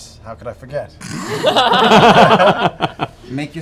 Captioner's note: laughter